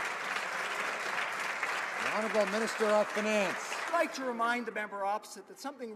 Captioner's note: some Applause